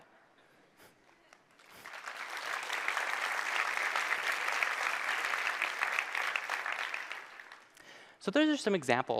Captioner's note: applause